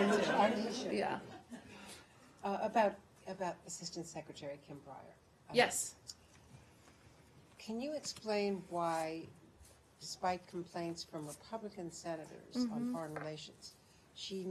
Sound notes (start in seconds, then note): 2.1 laughter